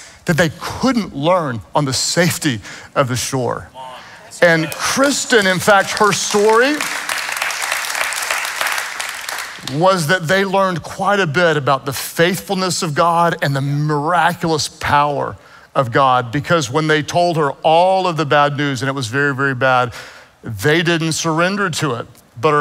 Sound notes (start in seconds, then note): 6.9 congregation claps